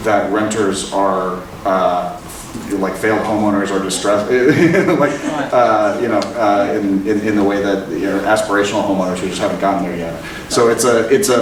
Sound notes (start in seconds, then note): 3.8 laughing